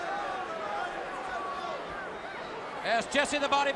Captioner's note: crowd chatter